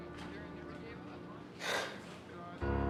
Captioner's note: gasps